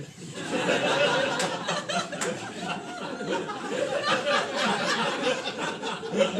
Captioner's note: laughter